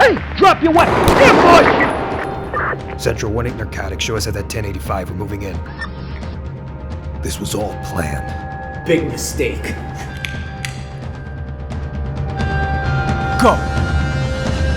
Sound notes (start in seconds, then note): 0.7 gunshots